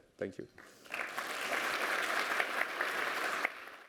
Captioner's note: applause